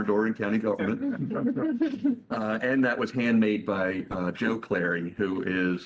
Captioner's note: laughter